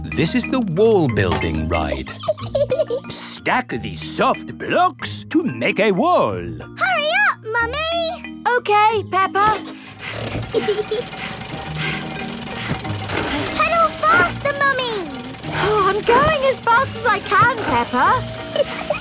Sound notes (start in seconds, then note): 2.0 laughs; 10.0 mummy pig panting; 10.4 peppa laughing